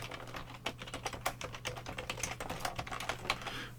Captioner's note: keyboard clicking